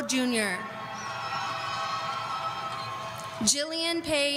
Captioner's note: audience cheering